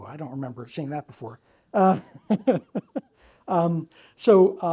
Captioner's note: laughing